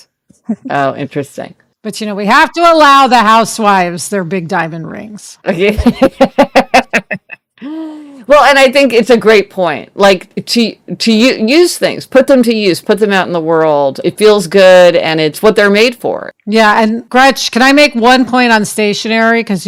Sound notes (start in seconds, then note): 5.8 laughs